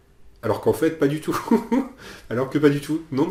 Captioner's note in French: rires